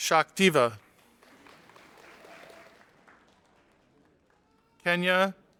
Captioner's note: audience applauding